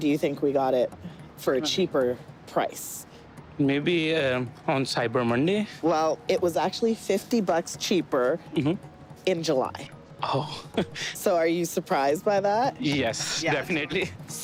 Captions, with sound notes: Which day do you think we got it for a cheaper price? Maybe on Cyber Monday? Well, it was actually 50 bucks cheaper in July. -Oh. [laughs] -So are you surprised by that? Yes, definitely.